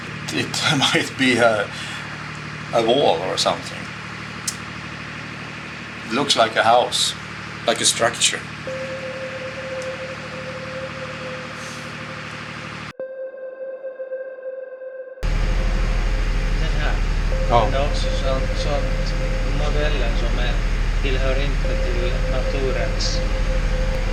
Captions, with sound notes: It might be a wall or something. Looks like a house, like a struc (high-pitched pinging) Look here... These features does not belong in the nature. It is very strange...